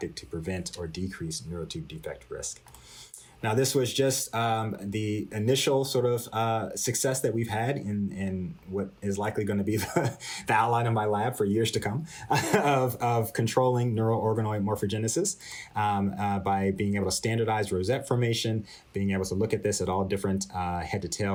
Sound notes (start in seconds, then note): 12.3 laughter